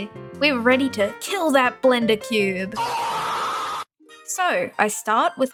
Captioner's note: death scream